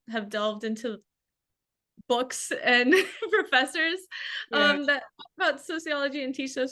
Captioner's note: laughs